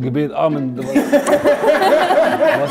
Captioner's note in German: Gelächter